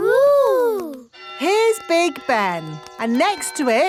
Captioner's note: clock chimes